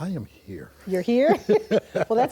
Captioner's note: both laugh